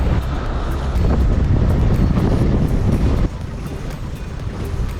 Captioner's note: wind howling; upbeat music